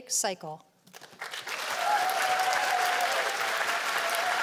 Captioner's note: cheers and applause